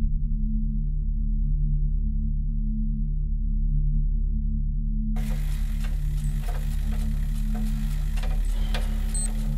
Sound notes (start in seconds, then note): 5.2 pedaling